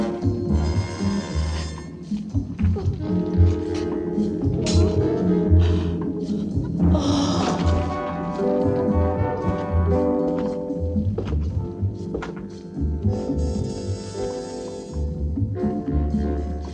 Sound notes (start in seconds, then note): 2.9 gasping